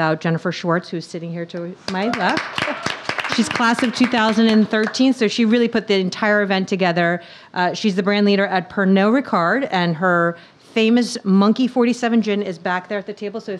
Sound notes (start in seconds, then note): 1.8 audience clapping